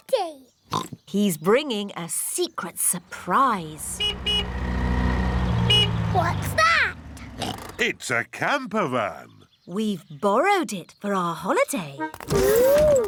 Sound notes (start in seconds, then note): 0.7 oinks; 3.6 horn honks; 7.3 oinks